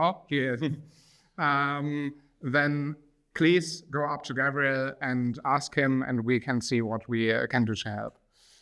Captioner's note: laughs